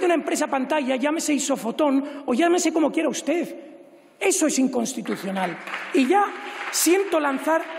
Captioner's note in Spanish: Aplausos